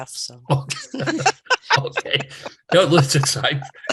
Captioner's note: laughing